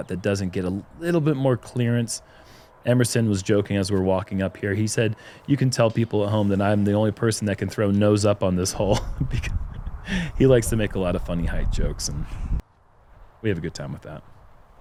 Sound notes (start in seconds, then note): 8.6 chuckles